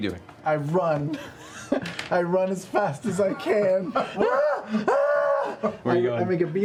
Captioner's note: screaming